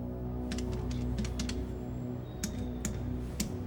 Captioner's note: buttons clicking